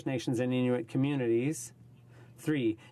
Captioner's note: speaking in french